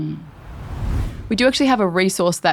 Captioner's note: air whooshing